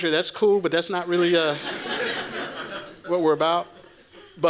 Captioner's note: laughter